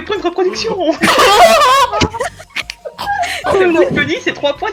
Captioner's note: general laugh